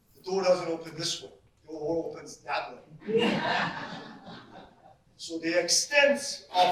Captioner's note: audience laughs